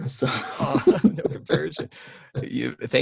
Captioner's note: laughing